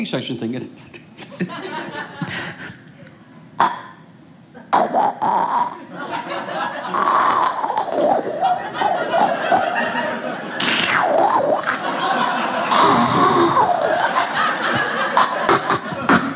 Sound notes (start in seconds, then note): 1.1 audience laughing; 4.2 imitating suction